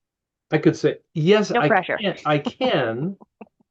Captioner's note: laughing